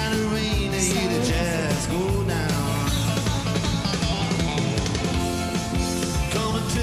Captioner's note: faintly speaks